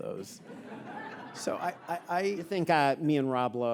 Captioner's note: audience laughing